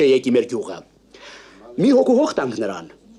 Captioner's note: sigh